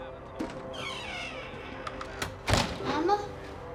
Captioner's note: door creaks